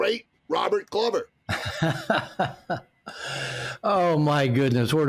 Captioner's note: laughter